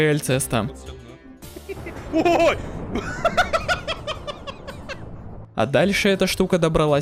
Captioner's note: laughing